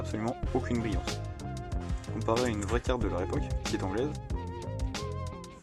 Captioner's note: in english